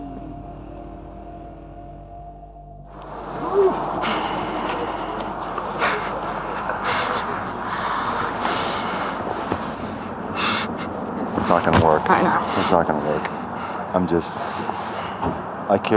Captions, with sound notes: - Whoo. (laughs) It's not gonna work. - I know. - It's not gonna work. I'm just-